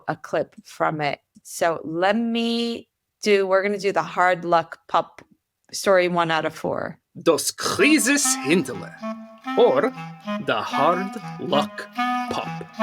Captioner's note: Yiddish